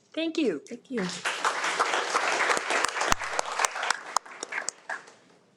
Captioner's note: audience applauding